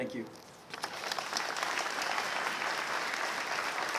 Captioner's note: applause